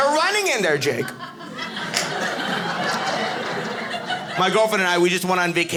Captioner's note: audience laughing